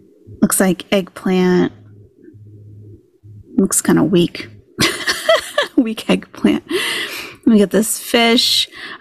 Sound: laughing

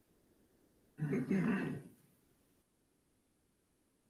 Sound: clears throat

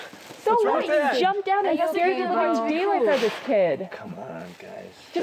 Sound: all chattering

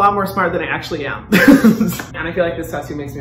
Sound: laughing

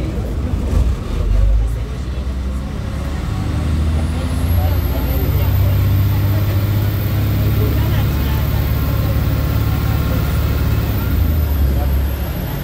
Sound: engine, gearbox, exhaust turbo and supercharger roaring

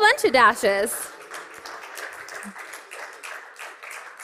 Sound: applause

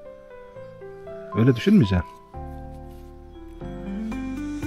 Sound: becomes tearful

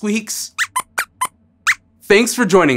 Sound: squeaks squeaks

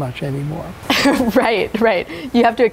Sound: chuckles

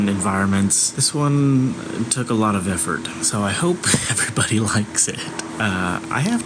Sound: laughing nervously

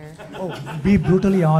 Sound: audience laughing

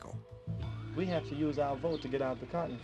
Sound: voiceover

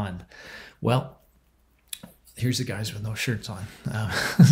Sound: chuckles

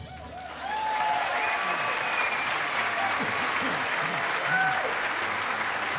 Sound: audience cheering and applauding

